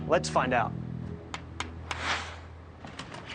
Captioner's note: tapping